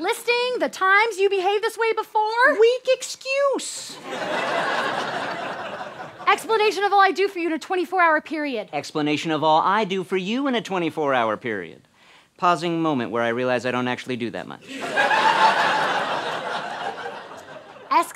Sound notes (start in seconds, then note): 4.0 audience laughter; 14.7 audience laughter